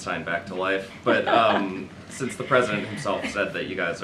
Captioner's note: laughter